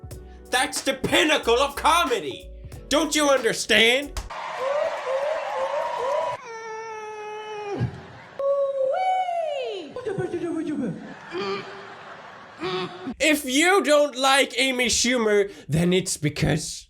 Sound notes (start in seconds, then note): 3.8 Amy Schumer making hoo hoo etc sounds; 11.1 grunting